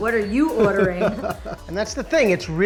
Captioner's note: laughs